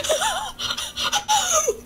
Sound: wheezing

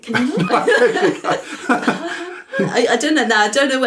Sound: laughter

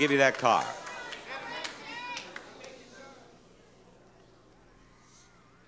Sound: audience cheering

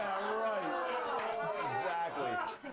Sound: bell rings

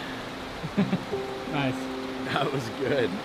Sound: laughs

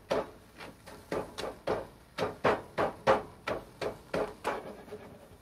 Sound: pan banging

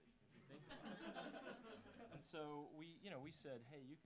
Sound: laughing

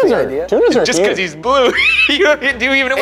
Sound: laughing

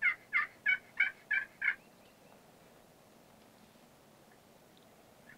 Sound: turkey yelping

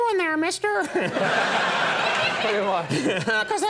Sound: audience laughs

